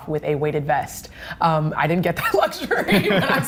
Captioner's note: laughing